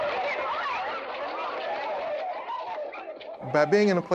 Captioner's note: crowd shouting